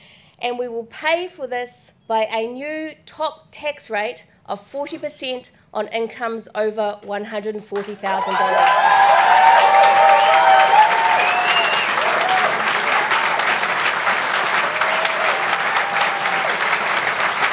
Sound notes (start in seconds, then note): 9.0 applause, cheers, whistles